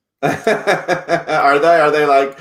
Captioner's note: laughs